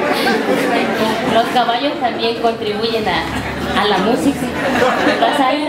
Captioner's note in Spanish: risas